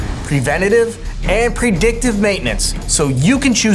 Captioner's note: boxes whooshing; text whooshing